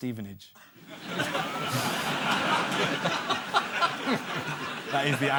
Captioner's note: audience laughter